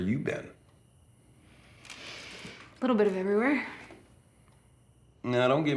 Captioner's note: inhales deeply